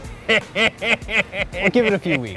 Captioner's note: laughs